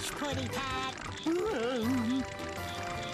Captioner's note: whimpering